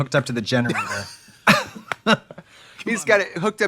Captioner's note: both laugh